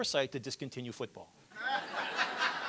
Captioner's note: laughter